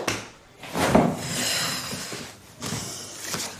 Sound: puffs

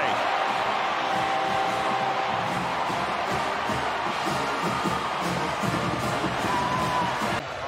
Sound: crowd

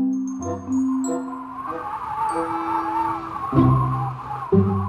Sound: blowing Wind

